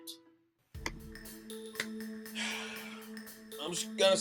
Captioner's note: sighs